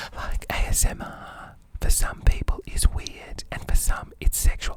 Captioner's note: whispering